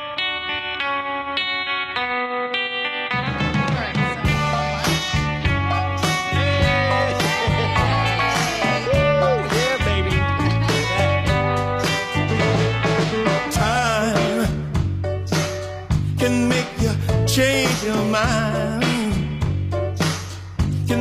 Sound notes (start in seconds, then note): 0.2 upbeat music; 7.8 cheering; 11.5 upbeat music